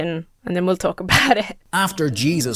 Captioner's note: chuckles